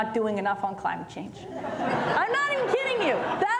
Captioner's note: laughter